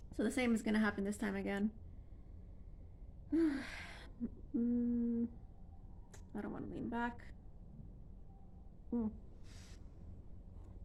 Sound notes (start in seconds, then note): 3.3 sighs